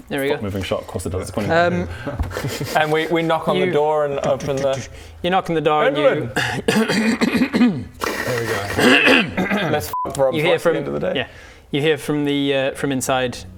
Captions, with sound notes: foot moving shot across And we, we knock on the door and open the You knock on the door and you Endelyn! *coughcoughcough* here we go *COUGHCOUGH* Let's f*** up Rob's voice at the end of the day You hear from the uh from inside